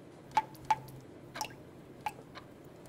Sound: dripping

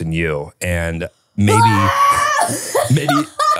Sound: screams and laughs

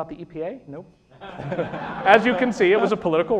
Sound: laughter

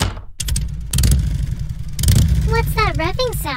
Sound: Atsuko Kagari's Motorcycle Revving

